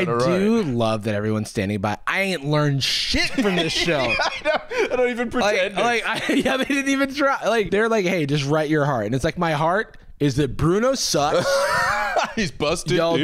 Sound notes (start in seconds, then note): 3.2 laughing; 12.3 wheezes